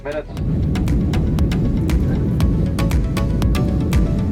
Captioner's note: plane engine; upbeat music and singing